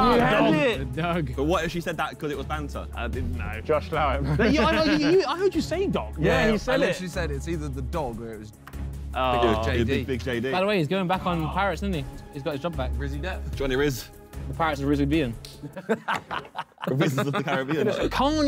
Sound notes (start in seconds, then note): 15.6 Simon laughing